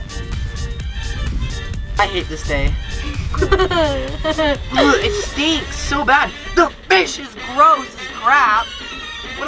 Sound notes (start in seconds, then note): 3.0 laughing